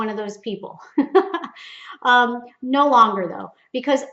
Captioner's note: laughs